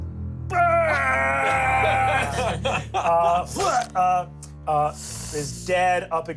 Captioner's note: everyone laughs